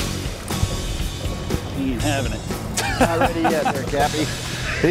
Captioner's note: laughing